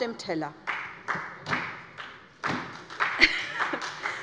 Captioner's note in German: Beifall bei der SPD